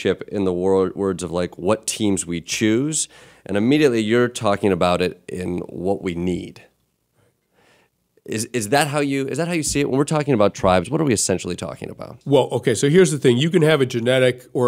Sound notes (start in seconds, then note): none